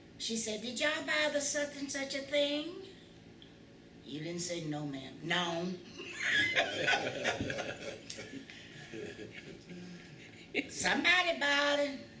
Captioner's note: laughter